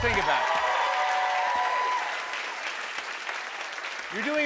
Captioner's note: cheers and applause